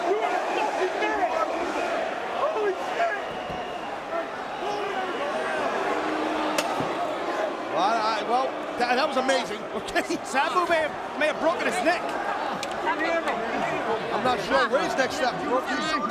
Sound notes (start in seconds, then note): 5.7 crowd booing; 10.1 chuckling